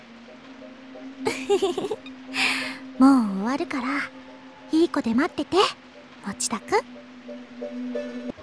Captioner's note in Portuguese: risos